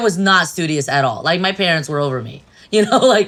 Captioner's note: laughs